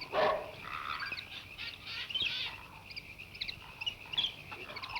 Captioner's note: birds chirp; dog barks